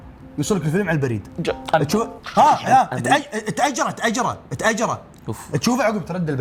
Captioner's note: chomps